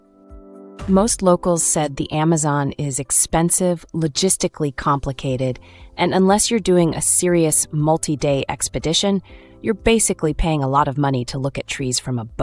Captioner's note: confident